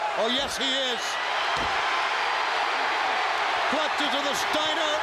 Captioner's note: audience cheering